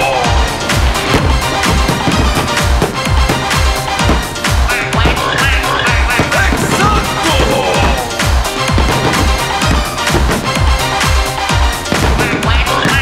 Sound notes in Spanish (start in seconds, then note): 0.1 Música Alegre; 0.1 Sonido de fuegos artificiales; 4.7 Sonido pato, pato, gallo, cerdo, pato; 8.0 Música alegre; 12.2 Sonido pato, pato, gallo, cerdo, pato